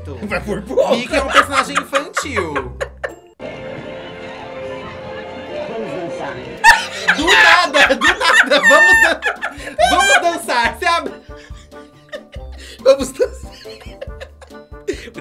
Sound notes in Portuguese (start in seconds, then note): 6.6 gargalhada; 13.0 risos